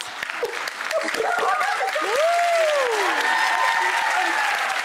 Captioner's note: gasping and laughing; audience applause